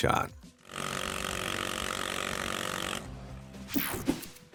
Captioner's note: guns blasting